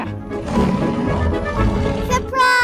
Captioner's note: tiger roars